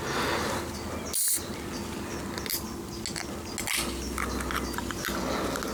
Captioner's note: pssst! of can opening and inexorable pull of metal being peeled back